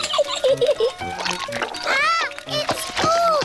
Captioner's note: giggles